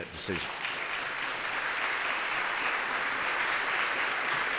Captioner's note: applause